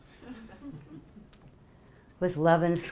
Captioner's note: audience laughing